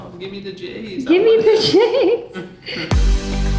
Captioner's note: laughing; upbeat music